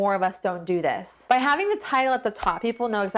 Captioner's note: bell dings